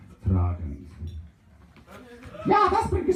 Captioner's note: starting cheer